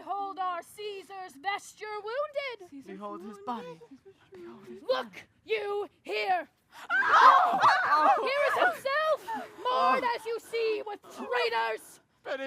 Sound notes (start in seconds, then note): 6.8 crowd exclaims